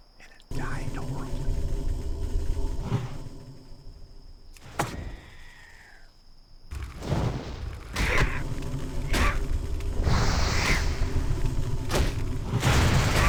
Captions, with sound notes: And it died, don't worry. (gunshot) (gunshots)